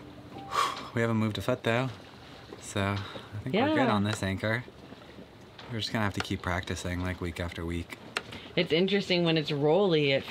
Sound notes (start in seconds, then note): 0.4 exhales sharply